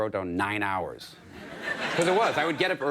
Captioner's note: audience laughing